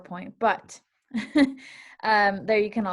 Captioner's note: chuckle